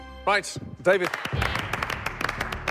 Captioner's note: applause